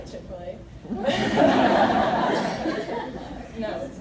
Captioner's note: laughter